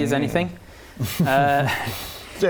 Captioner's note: pained laugh